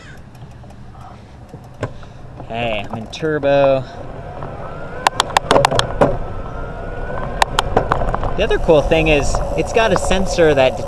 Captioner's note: gears clicking